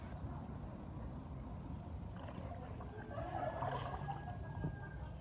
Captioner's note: water splashing; people laughing